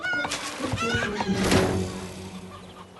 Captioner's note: slam